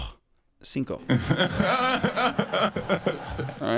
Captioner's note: laughter